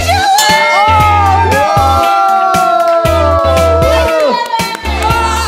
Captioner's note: cheering; funky music; screaming